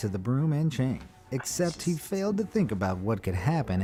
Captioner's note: whispers